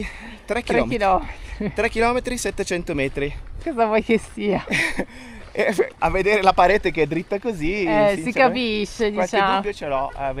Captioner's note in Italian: risate